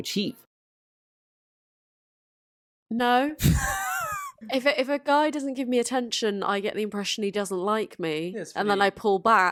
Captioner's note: laughs